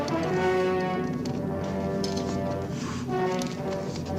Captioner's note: roaring